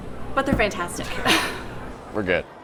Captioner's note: both laughing